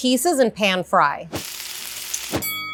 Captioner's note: pan sizzling; bell rings